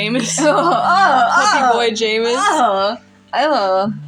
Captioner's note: laugh; shudder